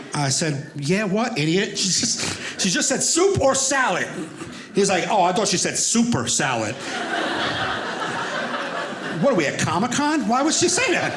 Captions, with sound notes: And I said, yeah what idiot? She's just said soup or salad. He was like, "Oh, I thought "she said super salad." (audience laughing) What are we at Comicon? Why would she say that?